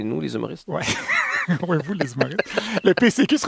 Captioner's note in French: rire